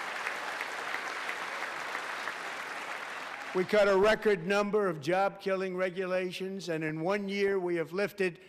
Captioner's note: applause